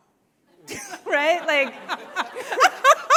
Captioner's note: laughs